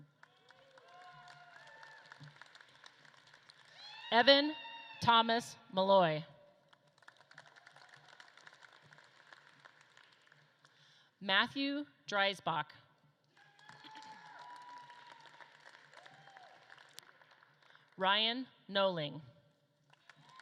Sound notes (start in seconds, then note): 0.0 audience claps and cheers; 6.6 audience claps; 13.2 audience claps and cheers; 19.8 audience claps and cheers